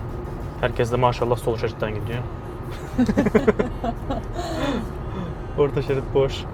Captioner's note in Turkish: kahkaha